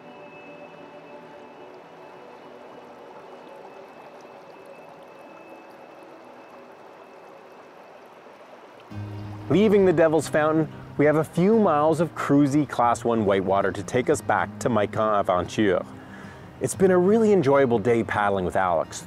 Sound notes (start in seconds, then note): 4.8 water bubbles